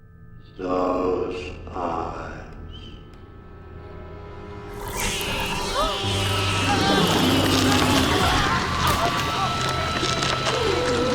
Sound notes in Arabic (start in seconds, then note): 4.8 صراخ; 4.8 لهث، صراخ